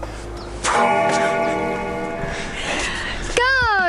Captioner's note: bell ringing